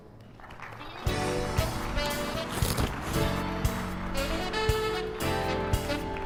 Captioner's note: audience applauds; upbeat music